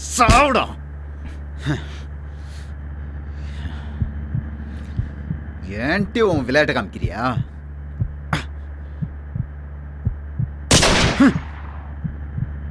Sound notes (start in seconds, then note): 10.7 gunshot